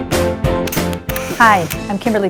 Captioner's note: camera shutter clicks